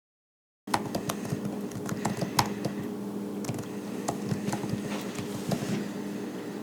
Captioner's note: typing